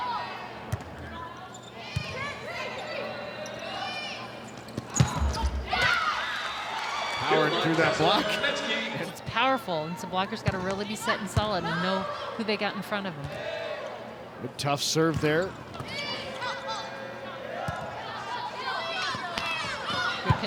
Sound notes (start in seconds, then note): 0.9 ball thumping; 5.6 audience cheering; 17.7 ball thumping; 18.0 players shouting indistinctly